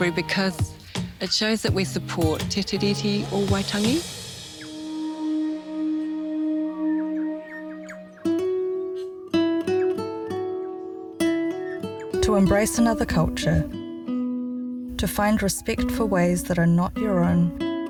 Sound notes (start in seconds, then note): 6.0 gentle guitar music; 7.0 bellbirds chortle